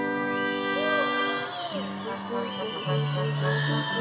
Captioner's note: attendees cheering and applauding; upbeat classical music